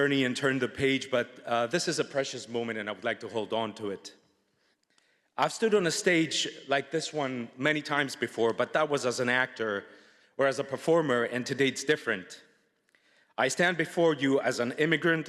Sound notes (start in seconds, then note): none